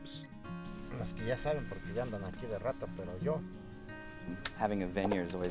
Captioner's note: worker speaking foreign language